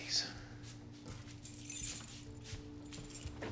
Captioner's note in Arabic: جلجل المفاتيح